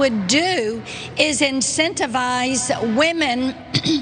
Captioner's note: cough